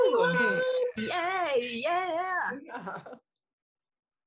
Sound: cheering

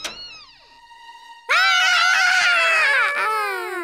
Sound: screaming

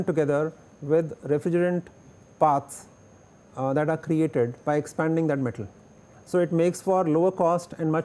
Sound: air conditioning

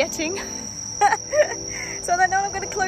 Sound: laugh

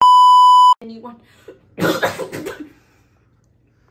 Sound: coughing

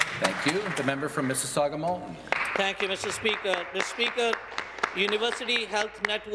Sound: some Applause

